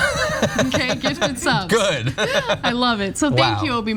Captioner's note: laugh